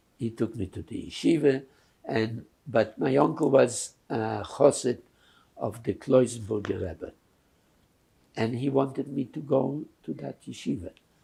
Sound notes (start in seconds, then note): 4.5 yiddish